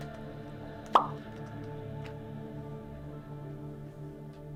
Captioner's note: animation pops